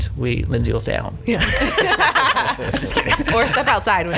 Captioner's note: group laughing